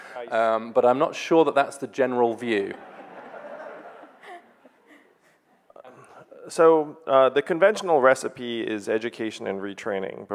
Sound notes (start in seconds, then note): 2.6 audience laughing